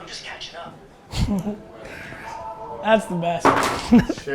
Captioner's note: chuckles